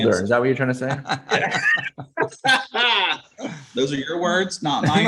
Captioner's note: everyone laughs